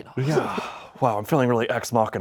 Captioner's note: sighs